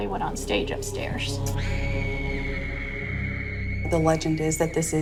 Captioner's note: screaming